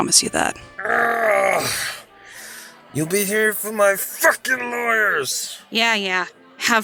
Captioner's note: shouting at the bouncer & bar in general